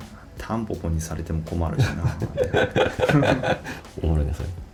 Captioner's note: laughs